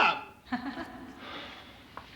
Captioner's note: venus laughs